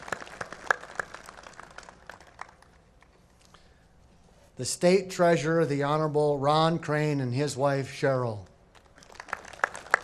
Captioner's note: applause